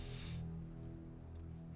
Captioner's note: none